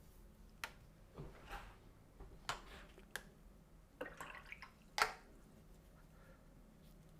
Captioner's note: silence